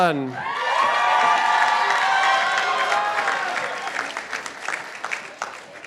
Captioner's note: participants applauding